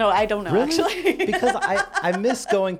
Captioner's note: laughs